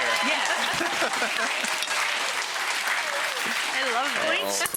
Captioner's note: male chef laughs